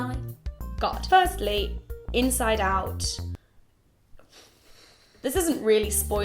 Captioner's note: exhales